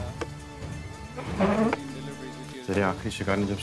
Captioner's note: Chair moving